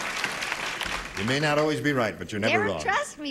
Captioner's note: applause